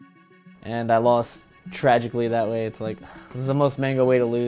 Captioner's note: sigh